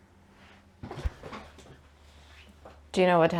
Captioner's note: sitting down noises